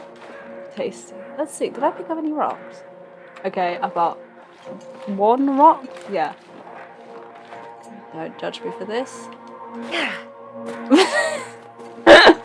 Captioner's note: laughs; laughs